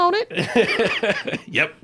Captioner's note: laughs